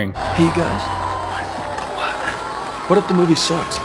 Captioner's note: applause